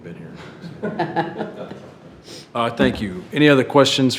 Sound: trustees chuckles

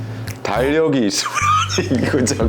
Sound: laughing

